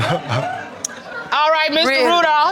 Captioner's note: crowd chuckles